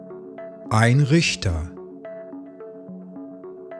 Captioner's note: german